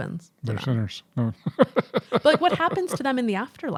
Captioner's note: chuckling